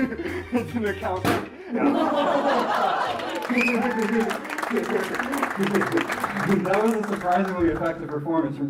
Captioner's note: laughs